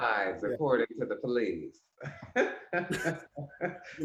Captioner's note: laughs